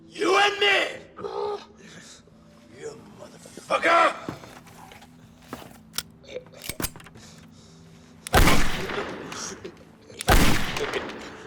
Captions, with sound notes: YOU AND ME! YOU MOTHERFUCKER! [gun cocks] [gunshots]